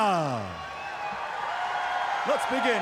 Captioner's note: crowd cheering